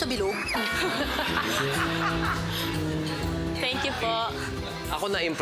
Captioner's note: laughter; silly sfx